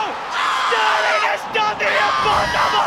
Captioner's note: screams